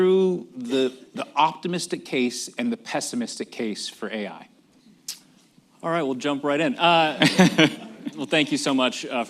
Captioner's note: laughs